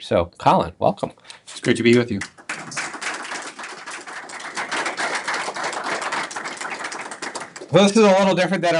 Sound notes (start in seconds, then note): 1.6 applause